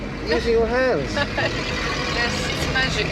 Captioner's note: laughing